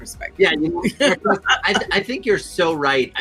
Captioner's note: murmurs